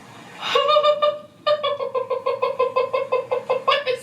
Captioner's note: laughing